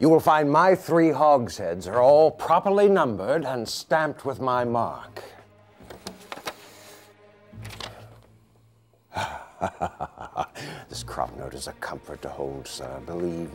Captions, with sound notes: YOU WILL FIND MY THREE HOGSHEADS ARE ALL PROPERLY NUMBERED AND STAMPED WITH MY MARK. [dark dramatic music] [laughs] THIS CROP NOTE IS A COMFORT TO HOLD, SIR.